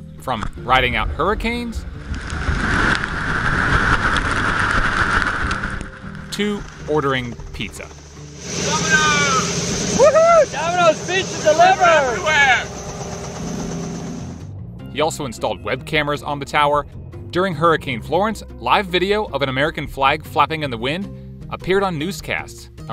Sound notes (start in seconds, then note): 2.6 wind roaring; 7.6 helicopter whirring; 13.7 helicopter whirring